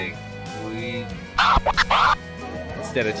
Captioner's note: DJ record scratch